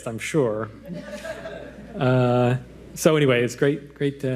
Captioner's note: audience laughing